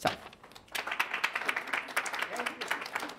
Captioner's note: audience applauds